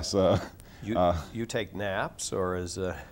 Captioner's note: laughs